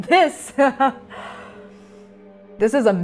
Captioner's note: laughing